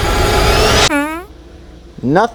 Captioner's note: fart bleats